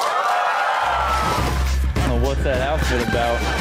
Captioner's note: audience claps and cheers